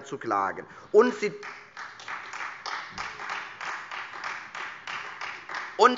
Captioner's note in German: Beifall Freie Demokraten